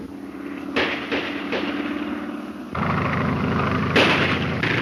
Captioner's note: gunshots